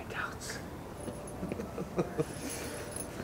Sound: Thomas laughs

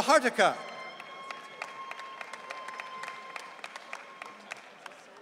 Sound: audience cheering

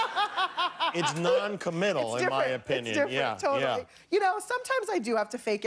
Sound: laughter

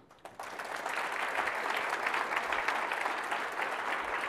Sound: audience applause

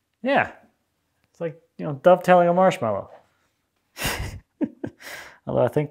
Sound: laughs

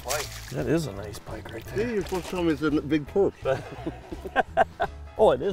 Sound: laughing

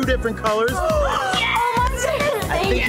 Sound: women cheering

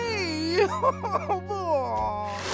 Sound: crying

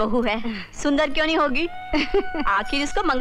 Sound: chuckles

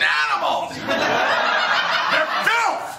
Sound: laughter

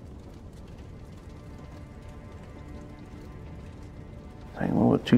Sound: fire crackling

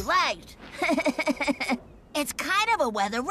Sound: laughing

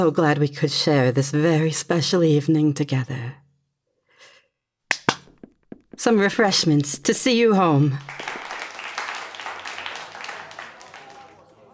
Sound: claps hands

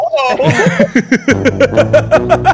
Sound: laughters

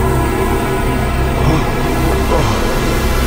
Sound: gasping

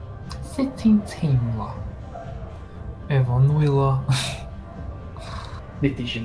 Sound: laughs quietly

